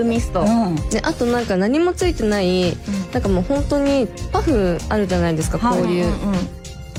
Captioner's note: puffs